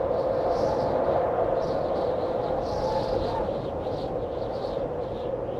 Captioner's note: wind howling continues